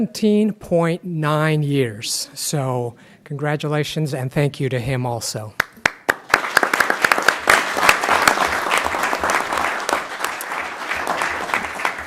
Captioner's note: clapping